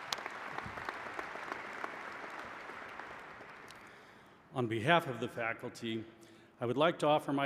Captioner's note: applause